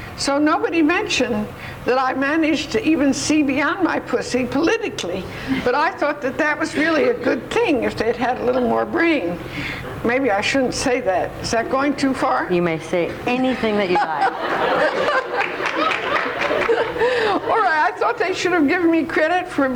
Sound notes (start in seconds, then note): 13.6 laughs